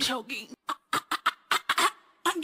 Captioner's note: mockingly